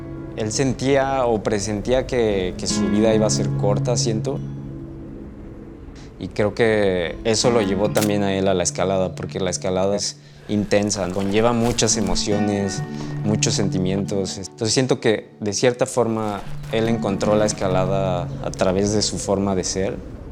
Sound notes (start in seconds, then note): 4.6 soft music continues; 7.9 camera clicks